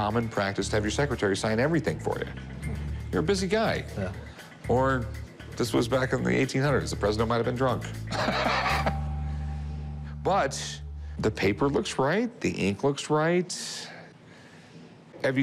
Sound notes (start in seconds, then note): 8.1 laughs